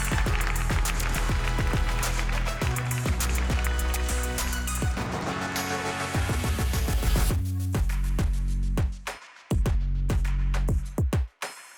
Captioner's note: applause